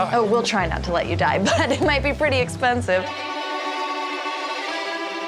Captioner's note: laughing